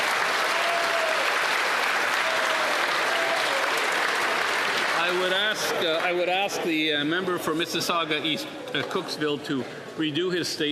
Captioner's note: applause